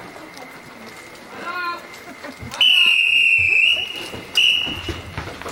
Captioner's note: whistle blows